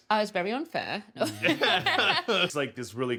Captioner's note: everybody laughs